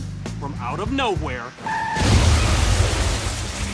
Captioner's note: tires screech